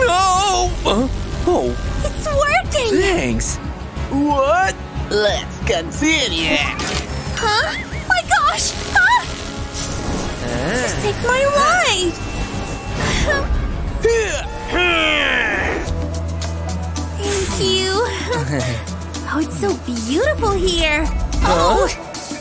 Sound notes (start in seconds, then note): 10.4 making happy sounds